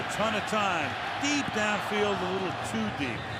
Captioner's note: crowd groans